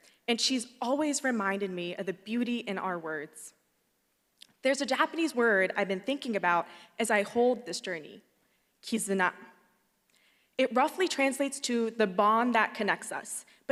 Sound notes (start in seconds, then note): 8.7 speaks Japanese